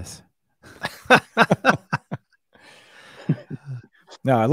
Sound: both laughing

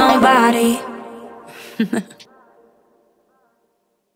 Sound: laughs

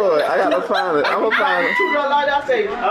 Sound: laughs loudly

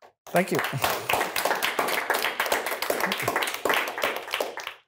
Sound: applause

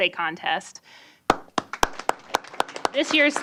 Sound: applause

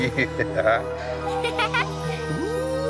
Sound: chuckling; laughter; giggling

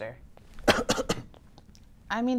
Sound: cough

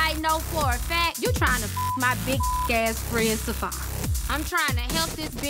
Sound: beep sound

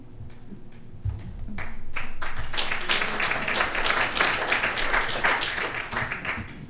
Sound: applause

